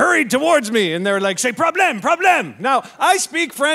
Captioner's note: speaking French